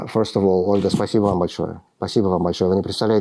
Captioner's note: speaking russian